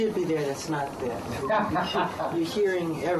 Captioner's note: laughter